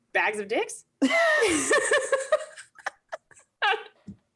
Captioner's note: laughs